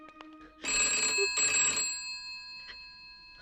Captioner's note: telephone Ringing